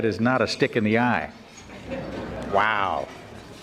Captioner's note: audience laughing